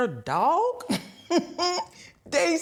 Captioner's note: laughing